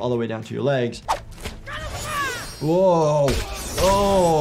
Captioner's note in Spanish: luchadores gritando